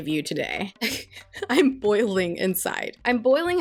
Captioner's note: laughs